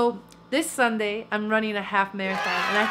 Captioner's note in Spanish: aplausos